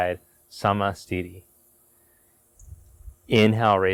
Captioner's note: speaking in foreign language